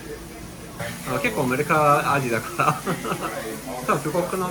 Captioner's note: laugh